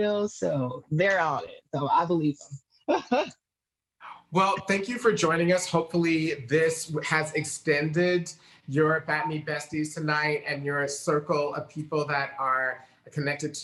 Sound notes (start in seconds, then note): 3.2 chuckles softly